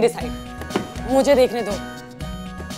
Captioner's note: Cupboard door opens